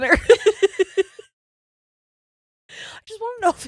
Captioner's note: giggling quickly